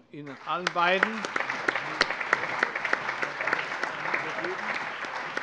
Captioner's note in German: Allgemeiner Beifall